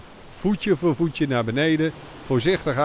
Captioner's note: voiceover